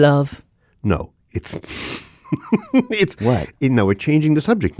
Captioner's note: laughs